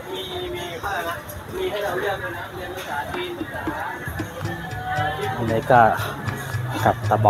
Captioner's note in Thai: เสียงหัวเราะ